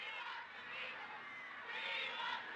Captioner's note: crowd